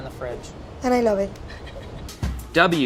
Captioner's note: laughing